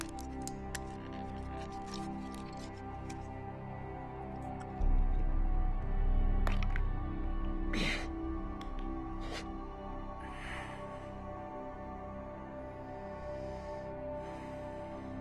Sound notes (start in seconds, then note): 7.4 groans